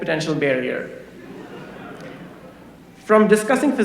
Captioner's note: laughter